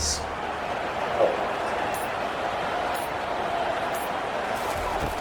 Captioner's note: crowd Noises